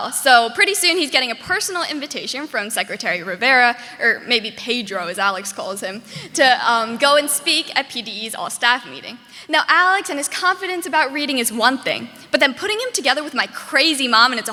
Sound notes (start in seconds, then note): none